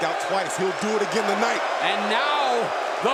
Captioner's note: crowd booing